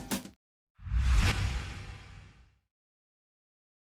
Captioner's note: whooshing